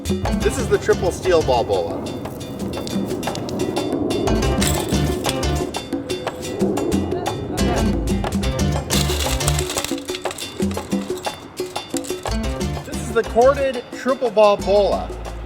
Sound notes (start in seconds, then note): 4.7 sign rattles; 7.8 sign rattles